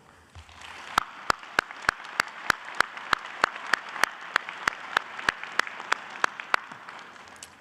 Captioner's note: clapping